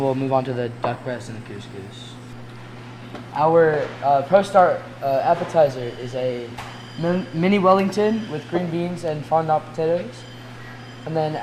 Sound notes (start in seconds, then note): none